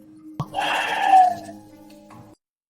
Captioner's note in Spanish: Suspiro